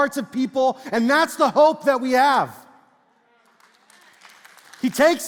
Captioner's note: congregation speaks faintly and claps